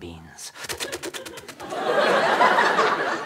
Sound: inhaling noise; audience laughter

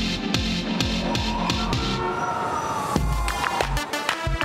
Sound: police sirens; hip hop music

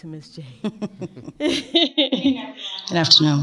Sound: laughing

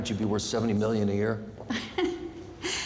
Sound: laughs

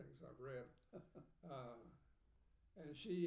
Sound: laughing

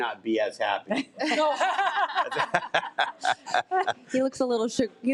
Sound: trustees laughing

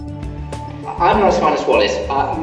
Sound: voiceover

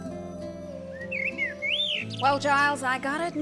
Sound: birds chirping

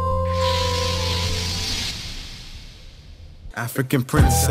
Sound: air hissing

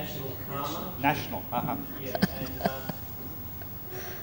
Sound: shri mataji laughs

